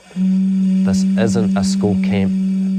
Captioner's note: shell blowing